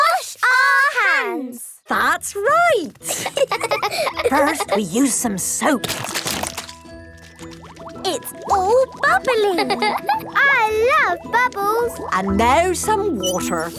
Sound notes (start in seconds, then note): 3.0 laughing; 6.3 squirt! squirt!